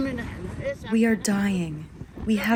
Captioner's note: through translator